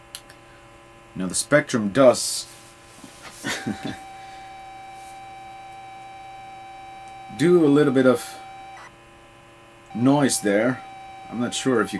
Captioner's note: laughs